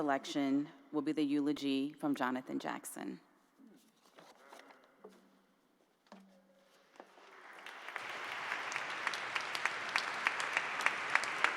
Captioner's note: applause